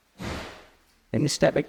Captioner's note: door slams